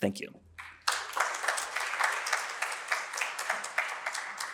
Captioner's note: applause